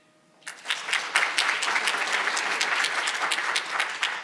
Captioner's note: audience applauding